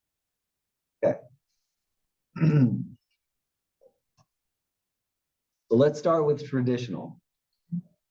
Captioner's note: cough